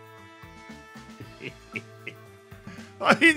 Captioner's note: chuckles